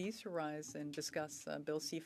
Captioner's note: speaking French